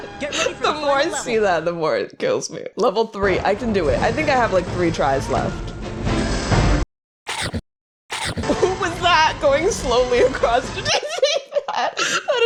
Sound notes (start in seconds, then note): 0.2 laughing; 7.3 chomp, chomp; 8.2 laughing; 10.5 laughing